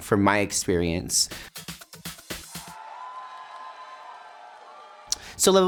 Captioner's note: light music; crowd cheering